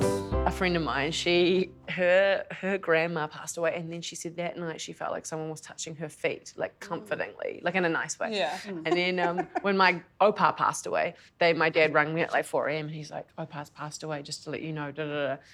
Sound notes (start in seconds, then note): 8.3 giggles